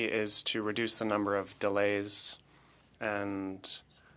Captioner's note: speaking French